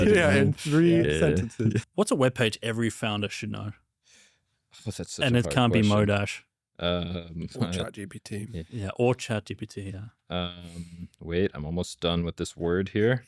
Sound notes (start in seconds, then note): 7.5 laughs